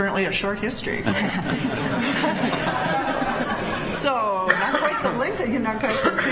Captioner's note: people laughing